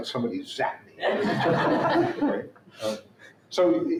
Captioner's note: laughter